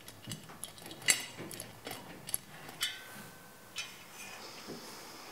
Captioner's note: soft metallic sounds